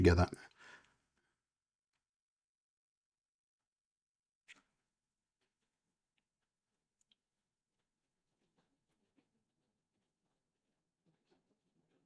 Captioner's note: silence